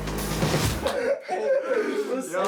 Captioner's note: laughing